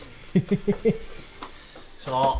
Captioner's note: laughing